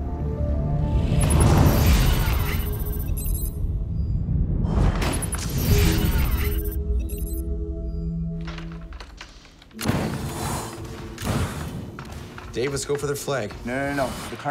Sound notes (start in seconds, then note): 1.2 readout sliding and beeping; 4.9 low thudding; 6.9 readout sliding and beeping; 10.7 guns firing